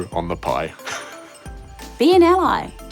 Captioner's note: chuckles